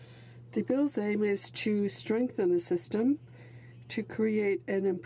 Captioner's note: speaking French